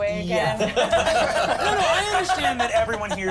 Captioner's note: everyone laughs